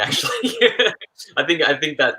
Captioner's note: chuckles